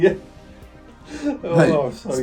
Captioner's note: laughs